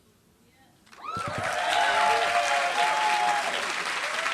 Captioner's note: applause